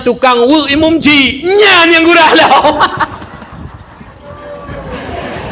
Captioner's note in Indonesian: tertawa